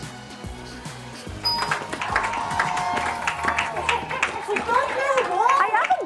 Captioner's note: applause